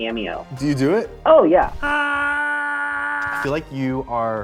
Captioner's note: screams